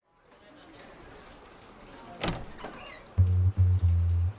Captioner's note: door opens; soft Jazz